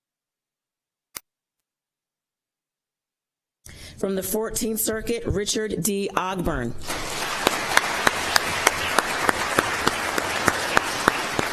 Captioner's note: applause